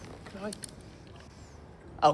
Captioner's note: gun clicks